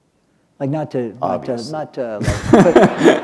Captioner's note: laughter